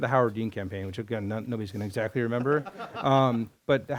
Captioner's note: laughter